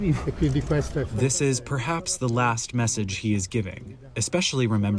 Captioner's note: through translator